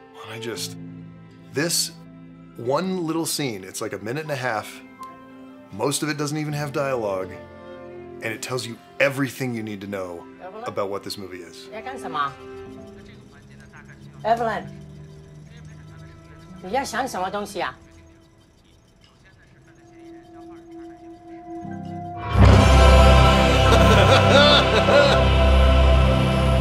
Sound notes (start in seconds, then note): 19.1 TV playing in the background